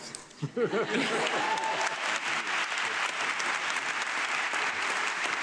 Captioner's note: audience clapping